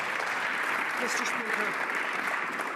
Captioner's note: some Applause